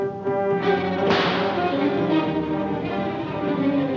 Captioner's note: rope snapping